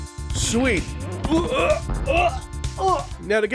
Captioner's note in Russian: блюет